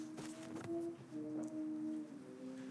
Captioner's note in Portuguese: zumbido fraco